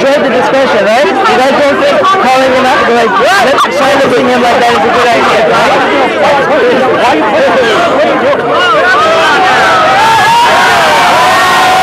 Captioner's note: shouting